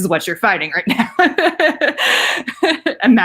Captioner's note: laughing